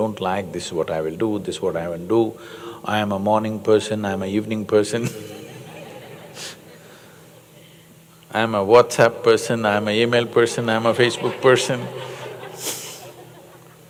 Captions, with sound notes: “this’s what I will do, this’s I won’t do, I’m a morning person, I’m a evening person (Laughter), I’m a Whatsapp person, I’m a e-mail person, I’m a Facebook person” (Laughter).